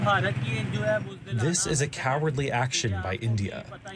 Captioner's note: through translator